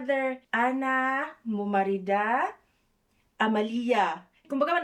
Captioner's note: arabic